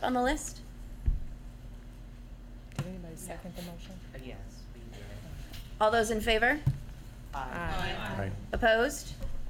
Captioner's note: chorus of ayes